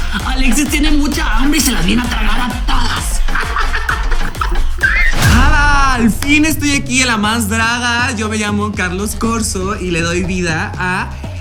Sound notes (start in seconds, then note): 3.7 evil laugh